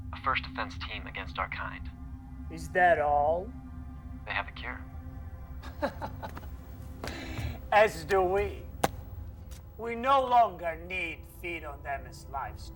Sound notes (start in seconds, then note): 5.6 Marcus laughing; 6.0 solemn music continues